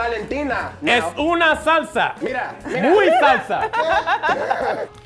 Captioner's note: speaking in a foreign language; laughing